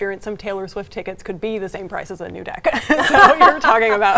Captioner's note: both laughing